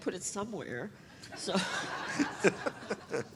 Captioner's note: audience laughter